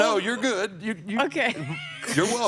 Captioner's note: chuckles